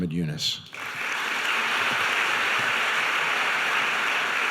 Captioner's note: audience applauding